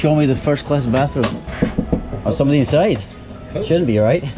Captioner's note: knocking